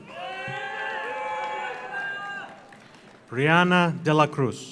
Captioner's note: audience cheers; audience applauds